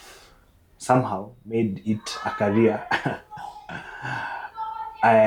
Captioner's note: laughs